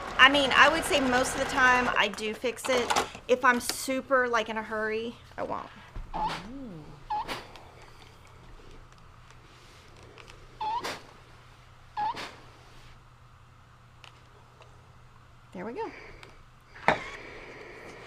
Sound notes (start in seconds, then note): 0.0 sewing machine hums; 6.5 steam iron squeaking